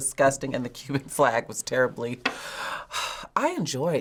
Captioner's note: sighs